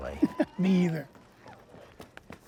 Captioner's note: chuckles